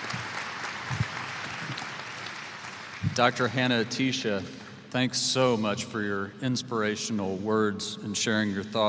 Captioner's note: applause